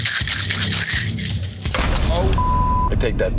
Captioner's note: thump